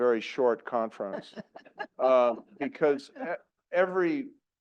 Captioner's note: laugh